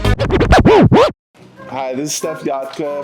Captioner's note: disc scratching